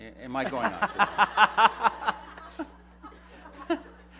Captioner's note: laughter